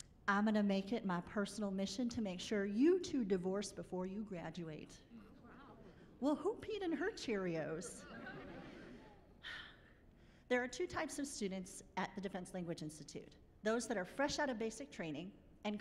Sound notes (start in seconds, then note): 7.8 chuckling